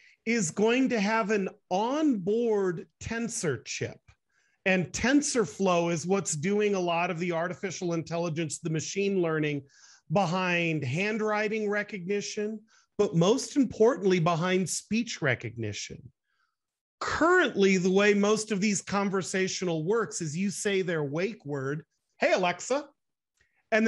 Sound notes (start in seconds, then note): none